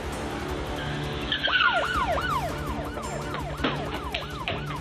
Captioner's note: sirens wailing